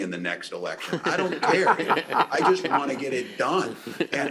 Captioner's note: laughter